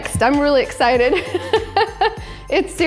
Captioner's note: laughs